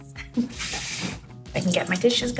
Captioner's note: water sprays